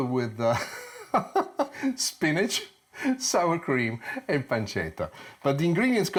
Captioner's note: laughing